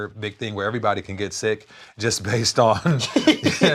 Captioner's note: laughs